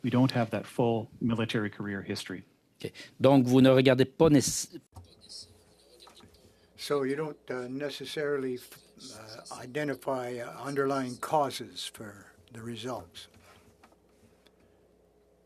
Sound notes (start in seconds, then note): 8.4 speaking French